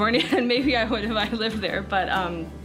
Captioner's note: chuckles